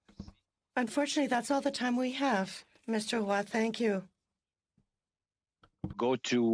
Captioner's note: speaking French